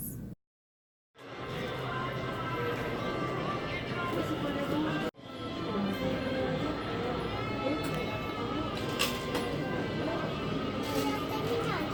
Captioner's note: shopping background noises